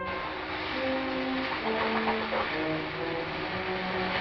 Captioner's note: sizzling